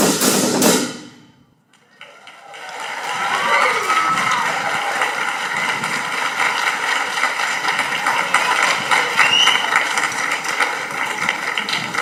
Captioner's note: audience applauding